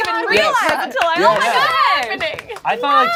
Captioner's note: overlapping chattering